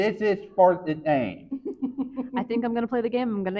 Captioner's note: chuckles